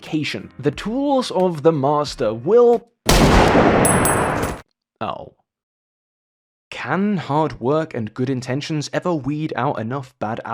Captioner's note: gunshot